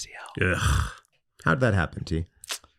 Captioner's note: groans